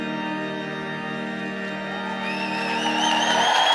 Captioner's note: cheers and applause